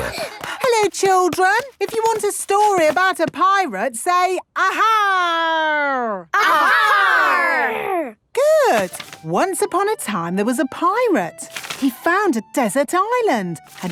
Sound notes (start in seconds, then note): 6.4 all shouting